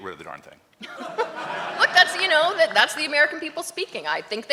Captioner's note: laughs